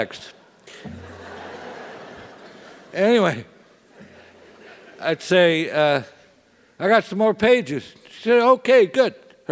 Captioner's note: laugh